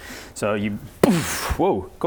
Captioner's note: boof!